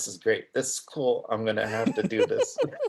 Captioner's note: both laughing